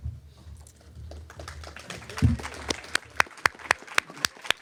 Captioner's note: applause